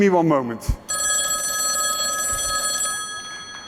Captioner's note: phone ringing